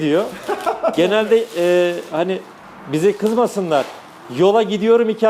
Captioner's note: laughs